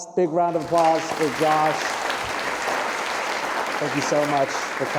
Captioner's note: applause